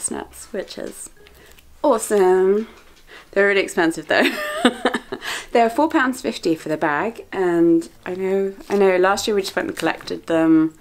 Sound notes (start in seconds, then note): 4.5 laughs